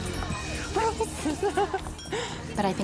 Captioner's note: laughing